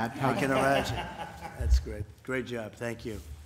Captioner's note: laughter